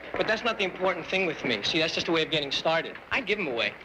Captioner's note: none